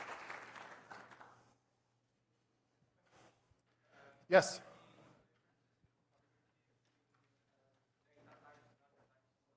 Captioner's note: applause